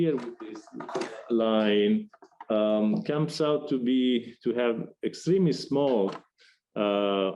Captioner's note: shuffling noise